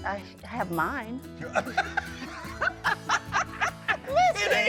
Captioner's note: both laughing